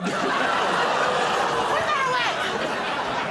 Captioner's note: laughter